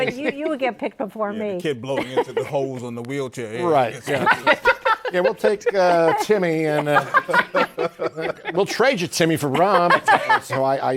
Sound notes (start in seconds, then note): 7.1 laughter